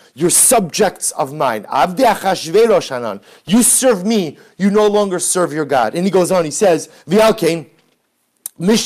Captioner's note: Hebrew